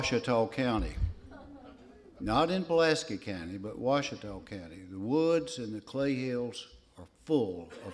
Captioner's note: laughter